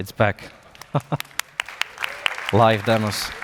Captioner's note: applause